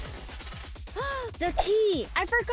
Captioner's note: gasp